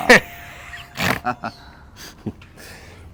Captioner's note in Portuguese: risos